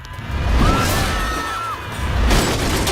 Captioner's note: screams